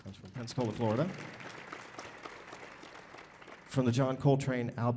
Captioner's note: audience applauding